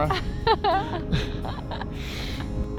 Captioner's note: laughs